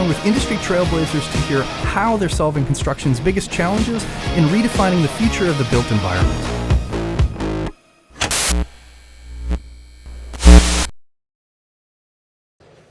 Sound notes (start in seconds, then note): 6.6 upbeat music; 8.2 logo crackles